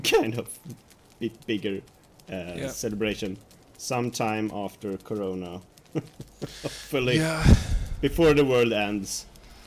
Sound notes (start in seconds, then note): 5.9 laughs; 6.3 sighs